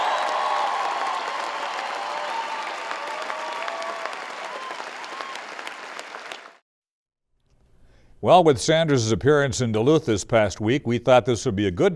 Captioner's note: applause